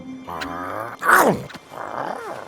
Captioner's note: Big Lizard grunts; Big Lizard chomps